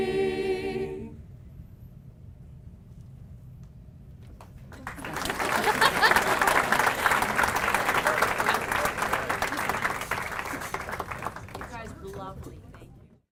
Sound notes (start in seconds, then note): 4.4 applause